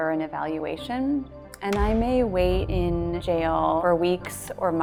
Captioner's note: gavel thuds